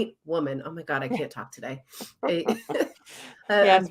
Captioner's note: laughs